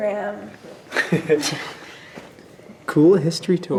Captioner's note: laughing